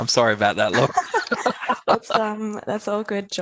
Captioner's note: laughter